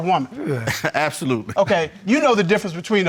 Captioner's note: chuckles